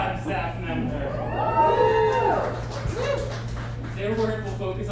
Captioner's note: audience applauds